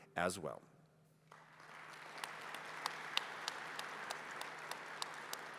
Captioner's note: applause